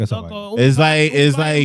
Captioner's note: speaking In Foreign Language